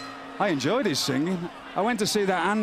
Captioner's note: bell ringing